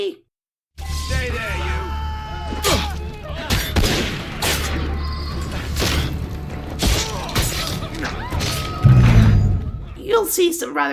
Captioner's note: instant death noises